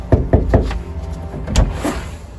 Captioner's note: knocking